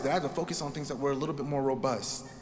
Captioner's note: none